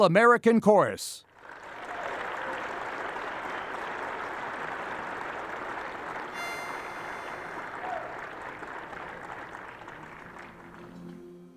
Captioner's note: applause